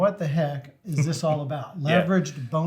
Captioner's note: laughs